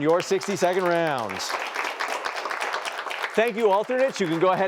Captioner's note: applause